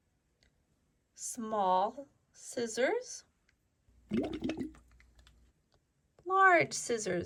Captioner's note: water gurgling